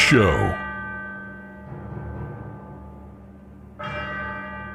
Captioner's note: bell Ringing